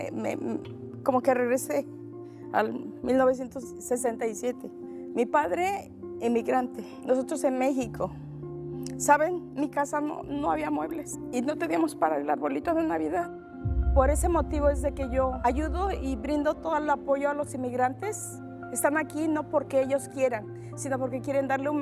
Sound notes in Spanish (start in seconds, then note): none